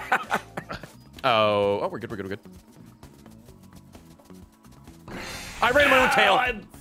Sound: laughs

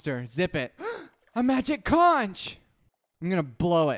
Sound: gasp

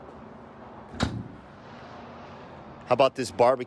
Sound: door thuds

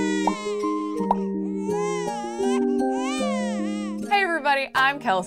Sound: baby crying

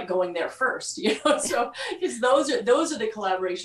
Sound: laughs

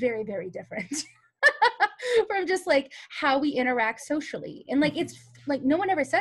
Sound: laughs

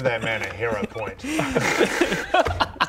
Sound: proud laughter

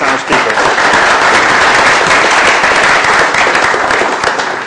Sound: applause

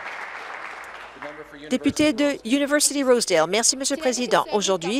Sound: applause

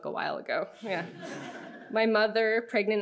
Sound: audience laughing

